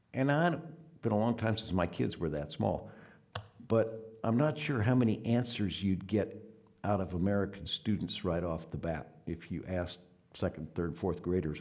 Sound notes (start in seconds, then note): none